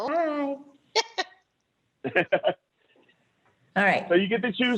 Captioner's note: laughter